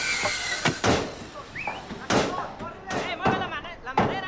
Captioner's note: yelling in Spanish; hammering